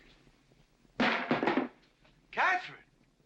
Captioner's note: loud bang